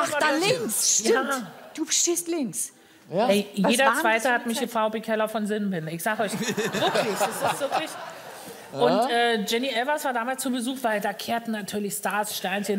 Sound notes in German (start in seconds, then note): 6.3 Lachen